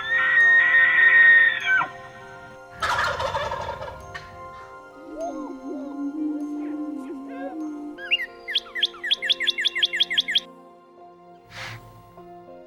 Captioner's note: bird calls